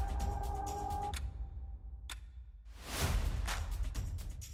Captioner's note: clock ticking